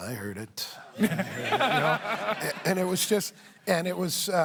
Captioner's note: laughter